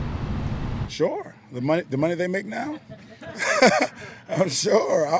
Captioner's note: laughs